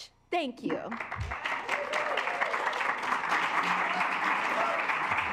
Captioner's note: assembly cheering